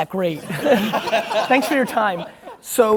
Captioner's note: laughing